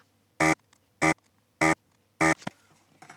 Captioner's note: buzzer Buzzing